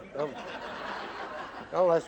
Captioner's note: laughter